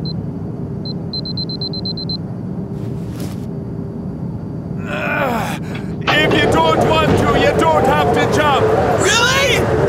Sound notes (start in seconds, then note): 0.7 beeping; 4.8 grunting